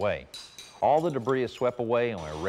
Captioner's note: mason hammering; brush sweeping